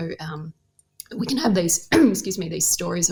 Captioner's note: clears throat